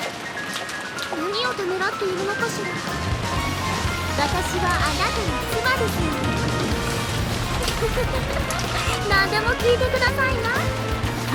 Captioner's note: giggle